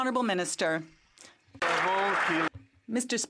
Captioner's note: some Applause